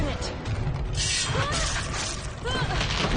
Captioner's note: screams